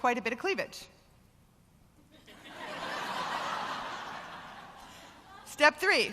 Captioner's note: laughter